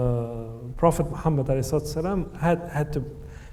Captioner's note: speaks in foreign language